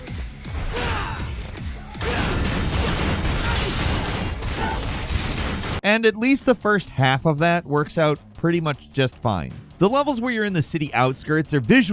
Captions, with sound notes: (gameplay playing) And at least the first half of that works out pretty much just fine. The levels where you're in the city outskirts